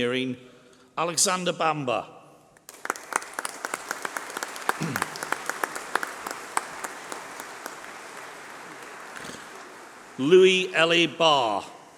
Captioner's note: applause